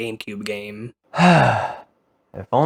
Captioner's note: sighs